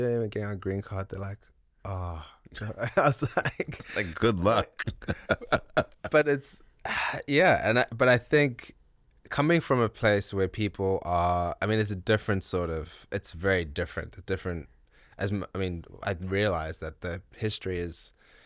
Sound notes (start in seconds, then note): 5.4 laughs